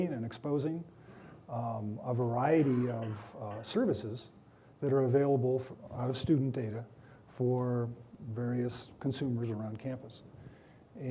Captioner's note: coughing